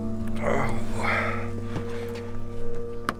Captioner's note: sounds of being in pain